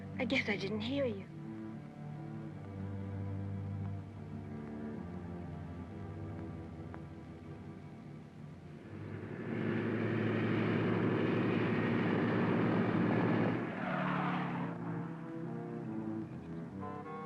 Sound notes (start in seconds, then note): 0.0 ominous music; 9.4 engine droning; 14.3 tires squealing